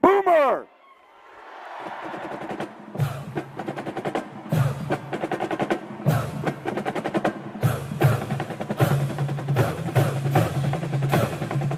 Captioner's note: applause